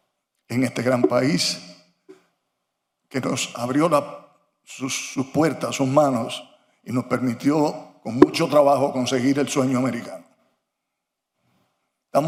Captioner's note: speaking foreign language